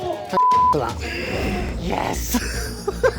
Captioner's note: beep